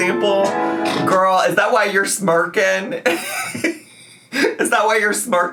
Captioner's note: laughs